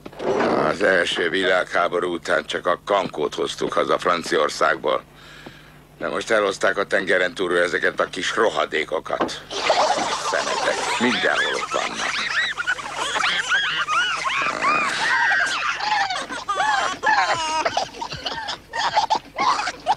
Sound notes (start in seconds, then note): 10.4 all squeaking and laughing; 15.7 crying